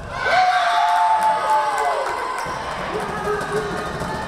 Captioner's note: crowd cheering